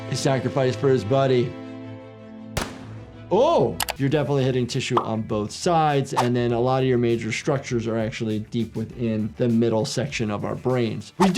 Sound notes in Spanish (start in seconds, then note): 2.6 estallidos de armas